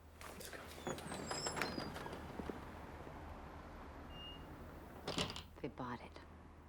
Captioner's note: door creaking